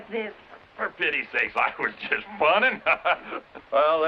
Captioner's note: chuckles